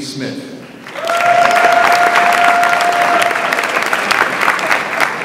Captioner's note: audience applauds